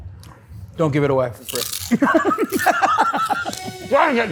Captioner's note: laughs